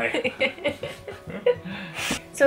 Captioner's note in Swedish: Skratt